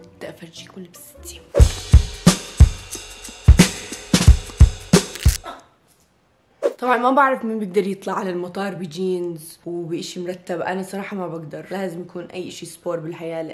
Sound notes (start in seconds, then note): 5.0 back cracks; 5.1 grunts